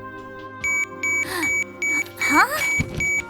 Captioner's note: wrist watch shrill beeping and vibrating; gasp